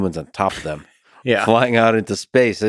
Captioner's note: Tim laughs